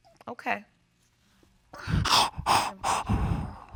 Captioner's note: sobbing